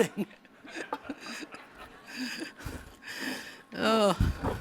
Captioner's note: laughter